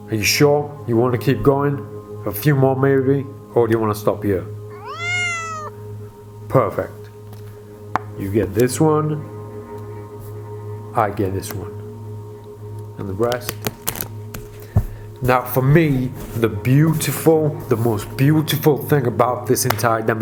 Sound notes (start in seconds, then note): 4.7 cat meows